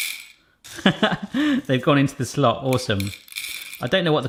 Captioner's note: laughs